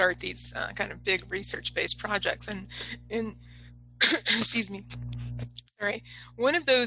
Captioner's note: coughs